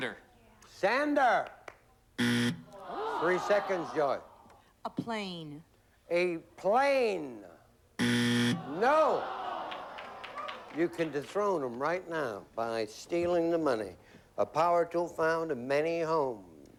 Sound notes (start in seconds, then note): 2.2 buzzer; 8.0 buzzer